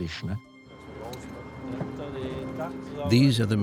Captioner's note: indistinct chatter